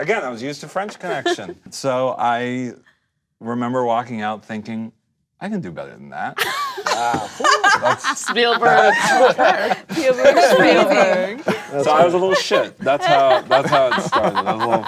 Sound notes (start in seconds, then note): 6.6 group laughter; 9.2 group chatter